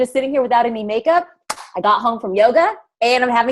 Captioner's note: claps hands